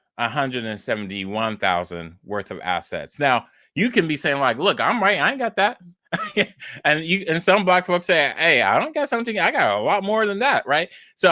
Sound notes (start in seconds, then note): 6.0 laughs